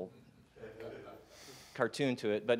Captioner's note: murmuring